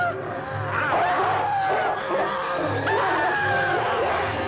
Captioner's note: dog barking